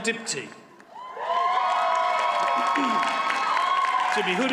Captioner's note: audience cheers and applauds